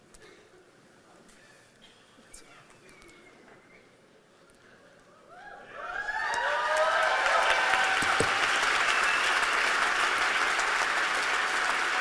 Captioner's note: applause